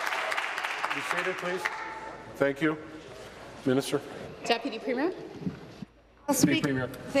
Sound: applause

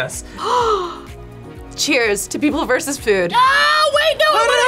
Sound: gasps

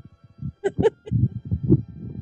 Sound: giggling

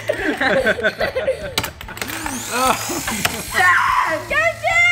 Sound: laughing

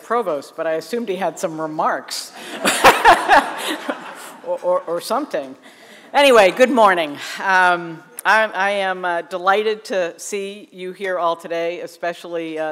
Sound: laughter

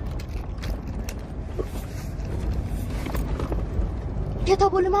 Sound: rustling

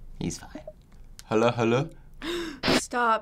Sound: gasps

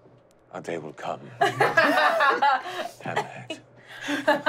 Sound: laughing

